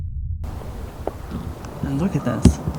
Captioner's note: distant scream